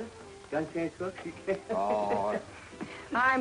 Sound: laughs

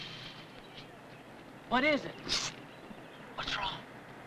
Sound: shushes

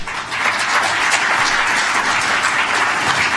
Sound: applause

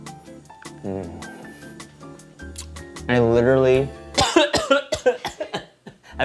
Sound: coughing

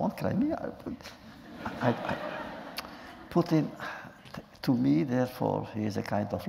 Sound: laughter

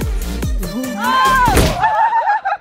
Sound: upbeat music; laughing

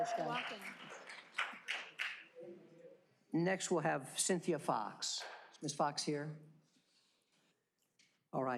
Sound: applause

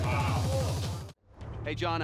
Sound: audience groaning

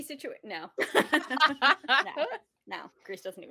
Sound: laughing

